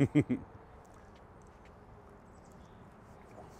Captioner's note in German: lacht